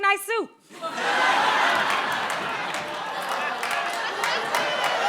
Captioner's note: laughter and groaning